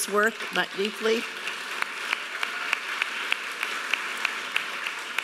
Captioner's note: audience applauding